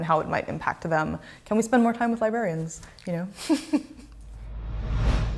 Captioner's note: chuckles